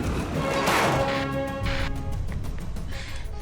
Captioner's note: bangs